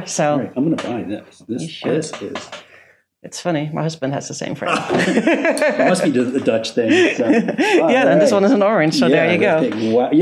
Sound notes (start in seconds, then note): 4.6 laughs